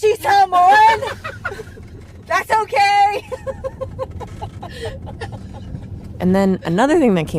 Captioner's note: laughs